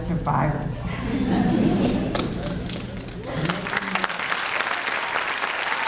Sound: audience cheering and clapping

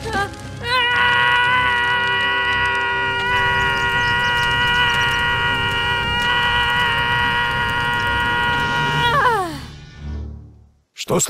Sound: indescribable scream

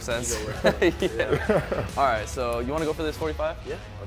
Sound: chuckling

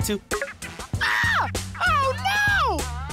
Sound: screaming

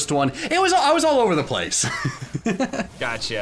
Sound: chuckles

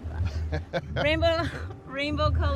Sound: laughing

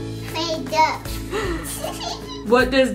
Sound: laughs

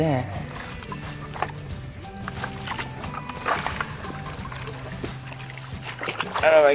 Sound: water splashing

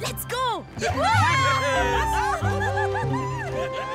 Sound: cheering

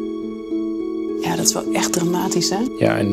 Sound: speaking Dutch

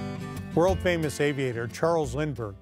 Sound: guitar music; voiceover

